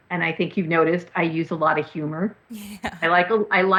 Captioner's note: chuckles